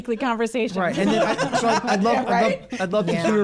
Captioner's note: laughs